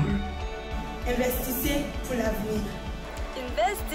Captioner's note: speaks in foreign language